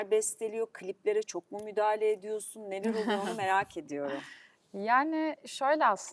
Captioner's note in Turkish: kahkaha